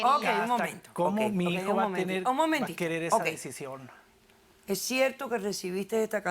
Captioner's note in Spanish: Hablan al unísono